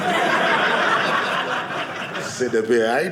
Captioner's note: audience laughing